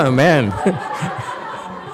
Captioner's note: audience laughs loudly